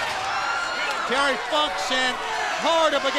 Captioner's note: crowd cheering